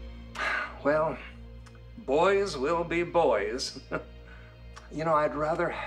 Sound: sighs; chuckles

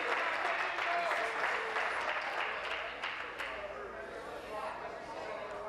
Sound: applause

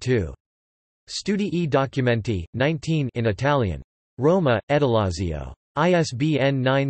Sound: in Italian

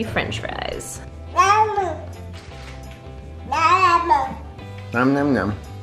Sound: babbling

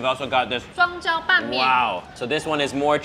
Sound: speaks Mandarin

